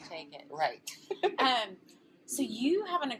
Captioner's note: laughs